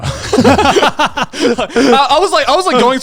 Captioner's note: laugh